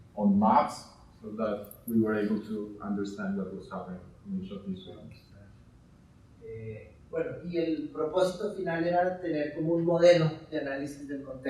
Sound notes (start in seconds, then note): 4.2 distorted speaking; 7.2 speaking in Spanish